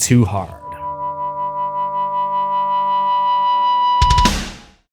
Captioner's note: amp feedback